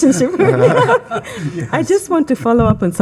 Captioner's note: attendees laughing